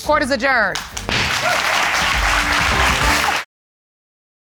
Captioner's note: audience clapping and cheering